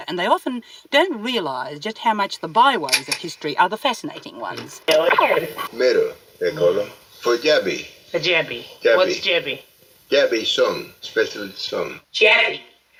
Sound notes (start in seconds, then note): 5.3 tape rewinds